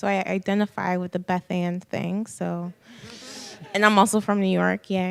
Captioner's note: scattered laughter